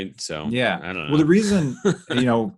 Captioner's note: laughs